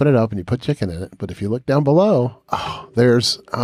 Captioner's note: sighs